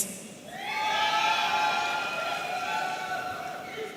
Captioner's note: audience cheering